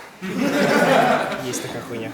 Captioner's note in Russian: Смех